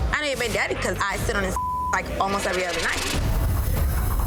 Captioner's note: beep